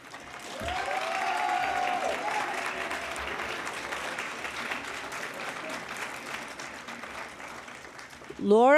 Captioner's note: cheering and Applause